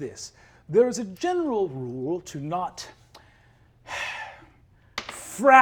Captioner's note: sighs